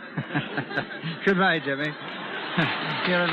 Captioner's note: audience laughs